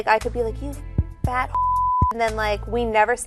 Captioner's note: beep